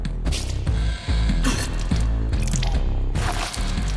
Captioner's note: spitting blood